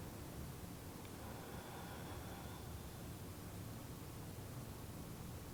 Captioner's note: breathing deeply